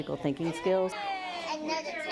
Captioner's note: classroom chatter